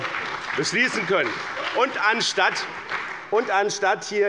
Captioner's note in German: Beifall bei dem BÜNDNIS 90/DIE GRÜNEN und der CDU